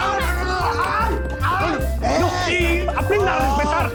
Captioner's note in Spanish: gritos